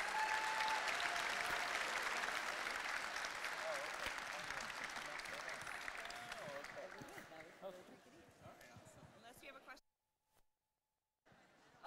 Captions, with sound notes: (audience applauding and cheering) (quietly conversing) (audience applauding) - Oh, okay... (audience loudly applauding) Oh, okay. - Yeah, that way everybody could eat. - Okay, awesome. - Unless you have a question.